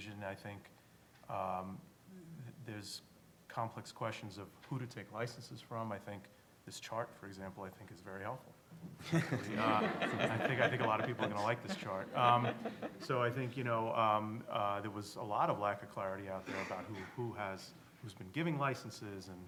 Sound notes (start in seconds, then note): 9.0 audience laughs